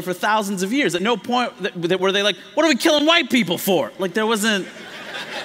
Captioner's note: laughter